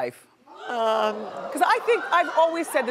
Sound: audience gasps

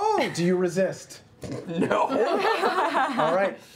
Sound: snorts

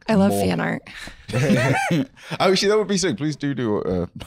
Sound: both laughing

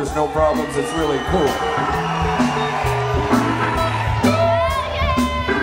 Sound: crowd cheering

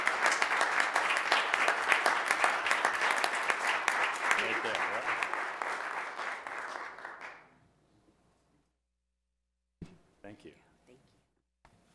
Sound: applause

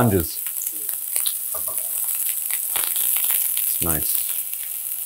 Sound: mushrooms sizzling

